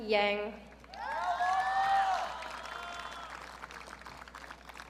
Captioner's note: audience cheering